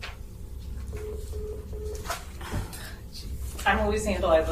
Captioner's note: electronic beeping